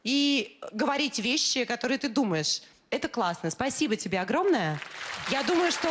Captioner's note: applause